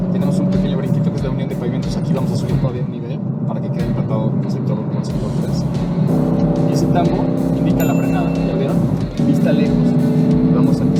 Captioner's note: engine revving